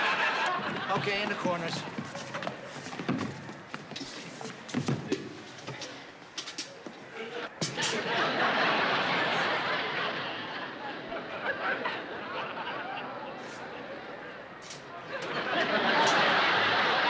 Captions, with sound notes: Okay, in the corners. [ Laughter ] [ Laughter ]